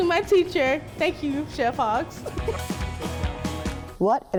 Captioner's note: laughs